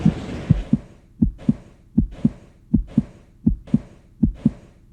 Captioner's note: heart beating